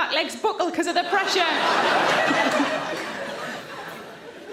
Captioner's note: audience laughing